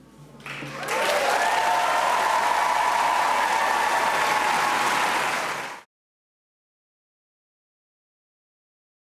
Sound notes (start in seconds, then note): 5.1 cheers and applause